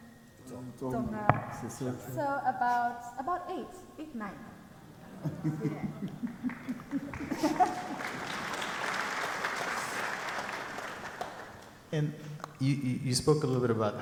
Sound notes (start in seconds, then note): 5.0 people laugh; 6.1 audience clapping